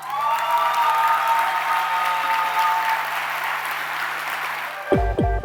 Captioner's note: cheering and applause